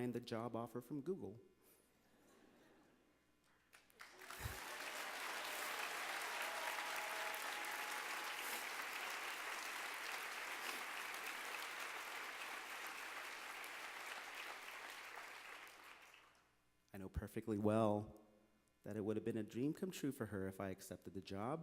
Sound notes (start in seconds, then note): 6.3 applause